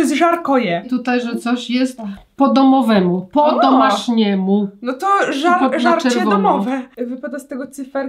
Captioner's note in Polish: rosyjski